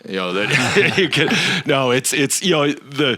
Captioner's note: laughing